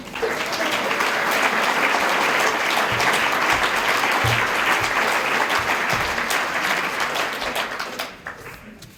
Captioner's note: applause